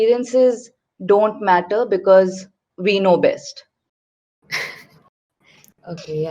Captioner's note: laughs